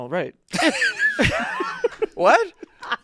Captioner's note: everyone laughing